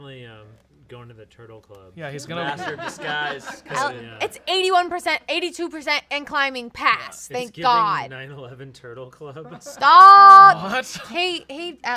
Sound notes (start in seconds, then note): 2.0 off-camera laughing